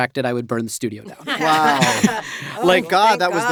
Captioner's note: laughter